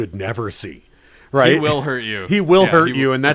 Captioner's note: laughs